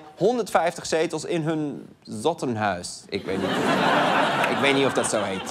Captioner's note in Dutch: gelach